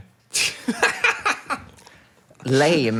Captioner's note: laughs